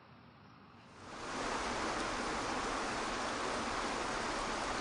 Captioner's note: water sloshing